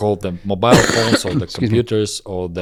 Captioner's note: coughs